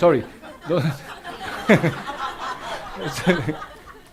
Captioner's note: audience laughs